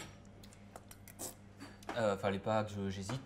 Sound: slurps

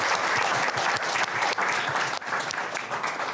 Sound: applause

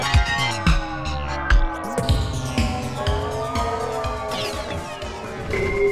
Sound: bells; sounds warp, slow down, speed up

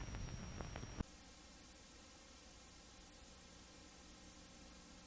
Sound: VHS static

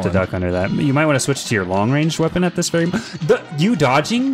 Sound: gasp

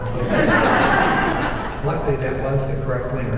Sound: audience laughing

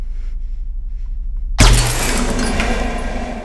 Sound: gun clatters

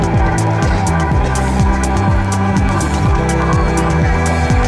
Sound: blows raspberry

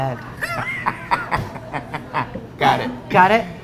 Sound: laughing

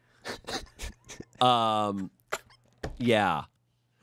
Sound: laughs

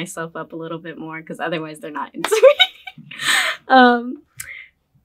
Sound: laughs

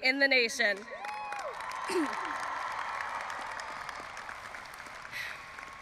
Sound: audience applauding and cheering

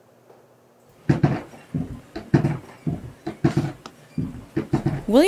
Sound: bellows creaking

